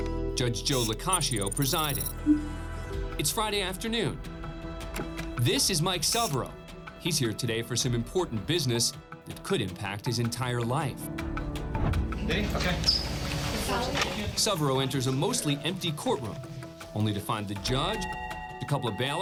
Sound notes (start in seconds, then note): 11.7 indistinct chatter